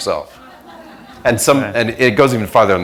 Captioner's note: laughter